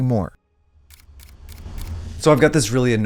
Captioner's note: camera clicks